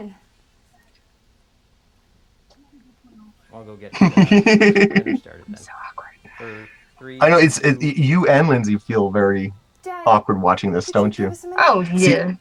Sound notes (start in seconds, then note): 5.5 whispers